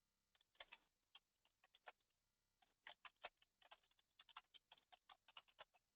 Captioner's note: computer keyboard keys tapping